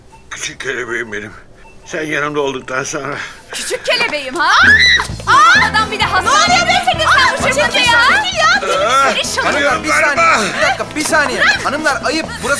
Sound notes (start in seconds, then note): 4.5 screaming voice